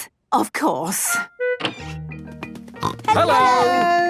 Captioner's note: snorting